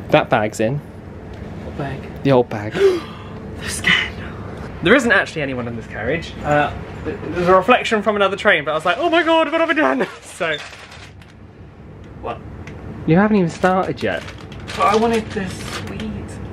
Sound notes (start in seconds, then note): 2.7 gasps; 10.0 packaging rustling